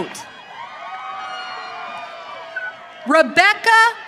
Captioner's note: audience cheering